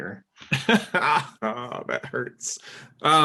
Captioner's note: laughing